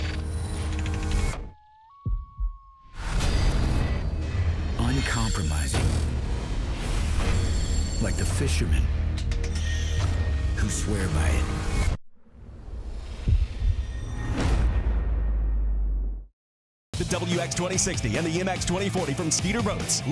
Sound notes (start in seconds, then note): 1.2 animal howling; 5.3 voiceover; 17.2 voiceover